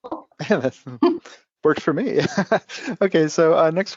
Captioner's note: laughs